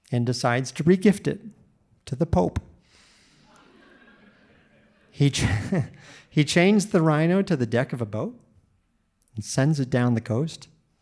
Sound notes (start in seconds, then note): 3.4 audience laughing; 3.4 laughs